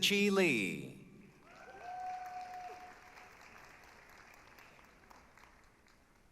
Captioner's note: applause, cheering